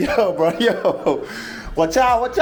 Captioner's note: laughs